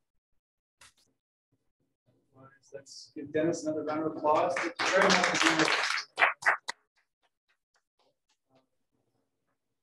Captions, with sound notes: give Dennis another round of applause. [Applause]